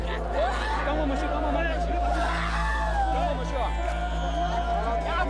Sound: shouts in foreign language

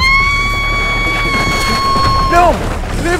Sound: screaming

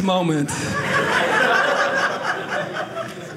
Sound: audience laughing

